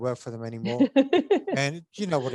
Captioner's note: laughs